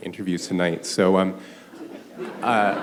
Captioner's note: laughter